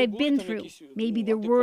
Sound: speaking alternate language

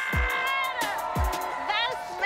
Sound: cheering, applauding

